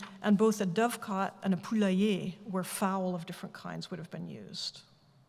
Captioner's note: french